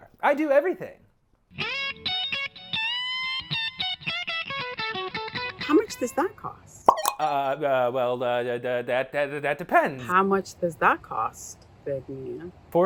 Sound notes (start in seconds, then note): 6.9 stammering